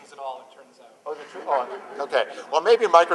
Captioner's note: laughter